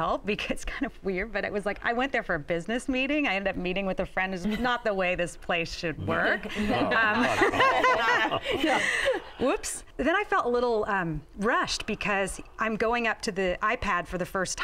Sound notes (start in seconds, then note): 6.6 laughter